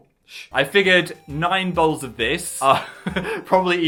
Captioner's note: laughs